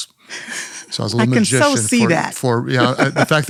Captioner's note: laughs